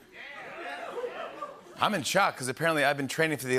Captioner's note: cheers